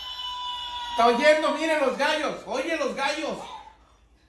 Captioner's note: roosters crowing